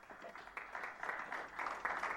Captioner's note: applause